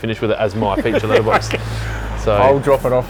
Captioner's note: laughs